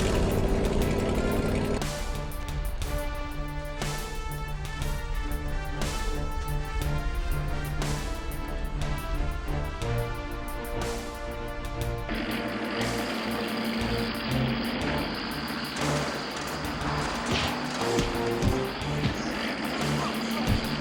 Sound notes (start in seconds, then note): 0.0 car engines humming; 0.3 thrilling music; 12.8 car engine rumbling; 17.9 fists smashing